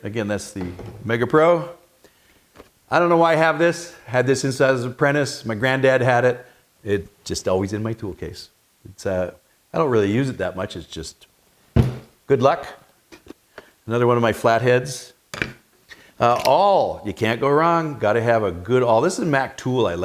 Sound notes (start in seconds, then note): 11.8 metal thumping